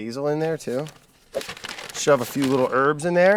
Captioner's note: bag rustling